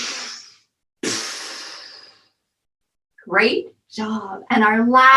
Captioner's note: deep breathing and puffing out